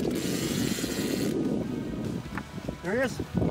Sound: fishing reel whirring

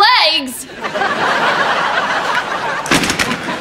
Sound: laughs

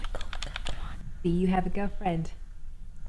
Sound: none

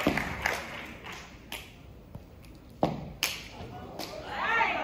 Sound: hands clapping, feet stomping

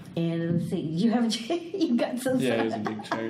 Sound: laughs

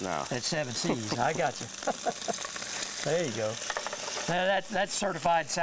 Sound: laughs

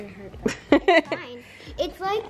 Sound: laughs

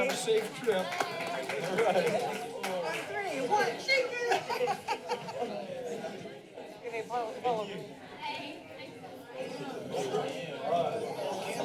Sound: background conversations

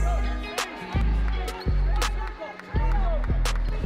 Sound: team cheering

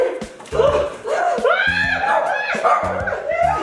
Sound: screaming

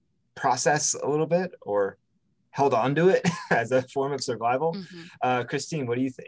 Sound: chuckles

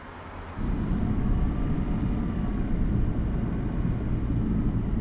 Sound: car engine rumbling

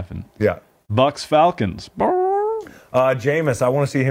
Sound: squawks

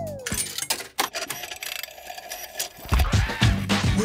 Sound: clicks, whirring; hip hop music plays

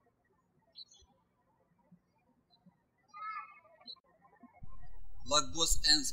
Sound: birds chirping

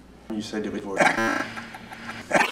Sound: laughing

